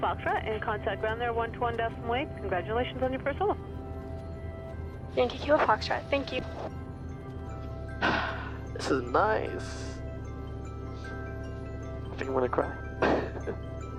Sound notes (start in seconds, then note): 8.0 exhales